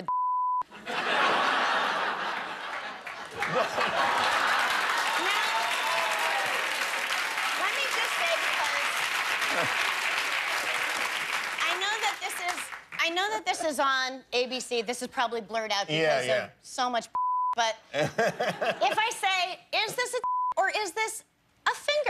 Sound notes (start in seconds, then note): 10.2 laughter; 11.0 cheers and applause